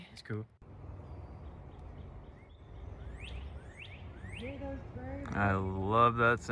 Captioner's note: birds chirping